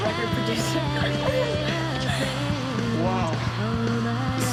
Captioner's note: laughing